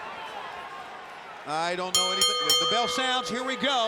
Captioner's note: bell ringing